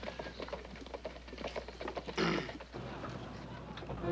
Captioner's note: clears Throat